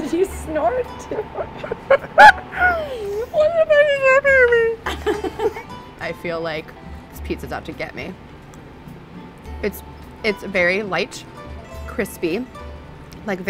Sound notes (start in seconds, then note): 1.6 laughter